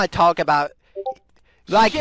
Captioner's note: Discord ping